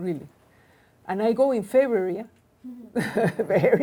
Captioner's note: laughs